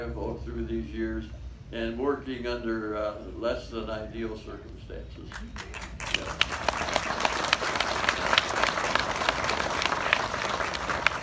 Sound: applause

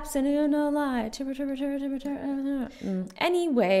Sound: murmuring

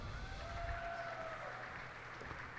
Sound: cheers and applause

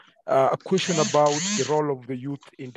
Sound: buzzing

